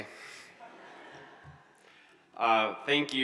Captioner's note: audience chuckles